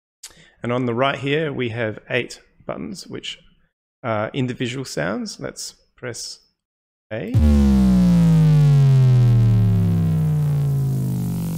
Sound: descending electric sound plays

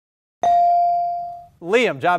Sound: ding

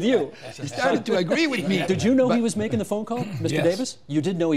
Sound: laughter

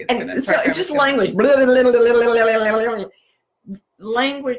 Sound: tongue rolling

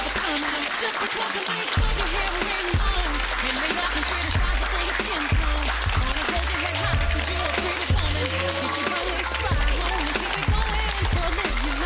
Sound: applause

